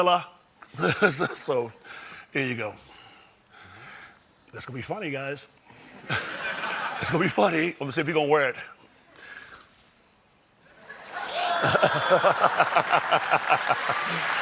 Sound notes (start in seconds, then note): 5.9 laughter